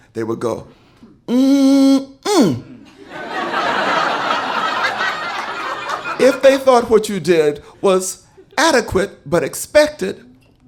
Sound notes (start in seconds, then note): 2.9 audience laughing